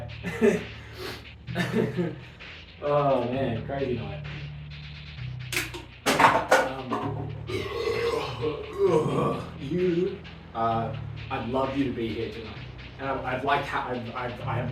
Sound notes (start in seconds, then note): 1.5 stifled laugh and sniffing; 7.4 loud Belch